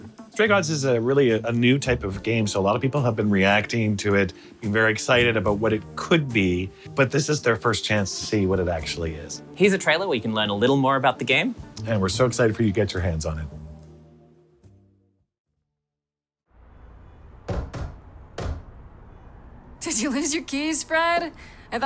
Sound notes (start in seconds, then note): 17.3 knocking